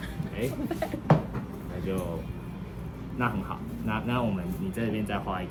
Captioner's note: laughs